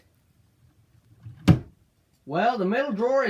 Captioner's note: drawer shuts